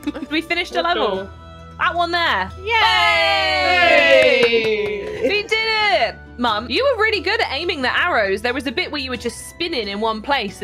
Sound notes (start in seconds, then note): 2.7 all cheer